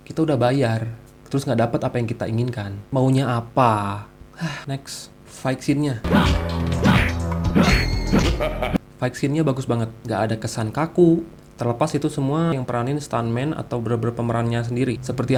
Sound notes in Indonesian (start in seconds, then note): 4.4 Sigh